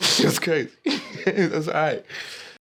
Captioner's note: laughing